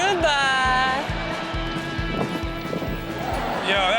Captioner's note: crowd laughs